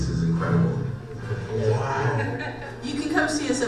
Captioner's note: voiceover; person laughs; voiceover